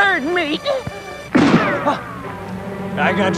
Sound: shot firing

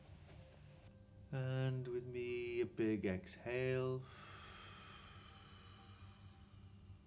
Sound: exhaling

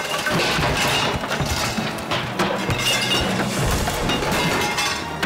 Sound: shop items crashing

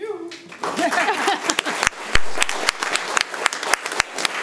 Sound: community applauds

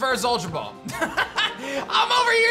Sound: laughs

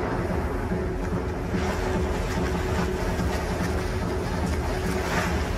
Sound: water splashing

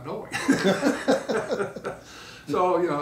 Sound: laughing

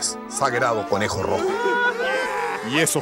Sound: crying

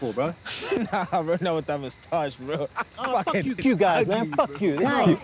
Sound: laughing

